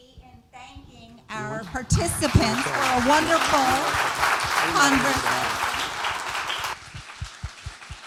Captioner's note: applause